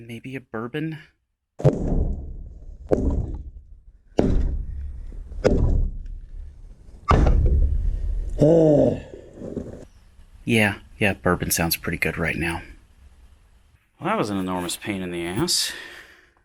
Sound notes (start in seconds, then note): 1.6 hammering noises; 7.0 sledgehammer hits ground; 7.9 groans